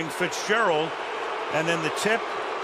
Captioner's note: booing